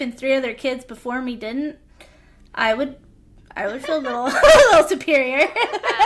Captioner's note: laughter